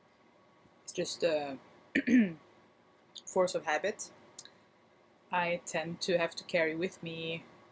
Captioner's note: clears throat